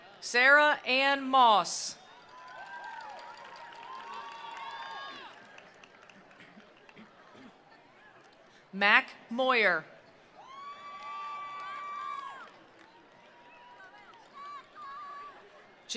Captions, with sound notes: Sarah Anne Moss. (attendees applauding) (attendees cheering) Mack Moyer. (attendees applauding) (attendees cheering)